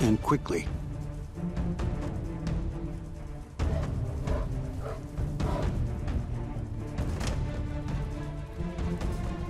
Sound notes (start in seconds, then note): 0.1 suspenseful music; 5.6 bears grunting